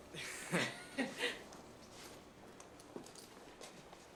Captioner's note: both laugh